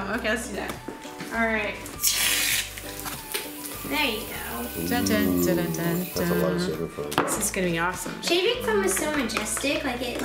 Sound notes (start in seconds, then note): 3.4 foam spraying; 4.6 humming